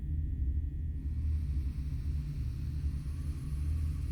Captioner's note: slow deep breath